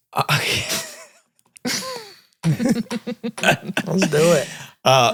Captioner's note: all laugh